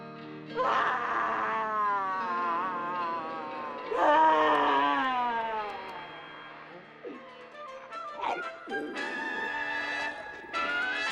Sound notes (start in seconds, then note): 0.5 bucky crying; 8.2 zombie walter growling